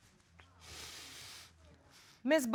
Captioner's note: sniffling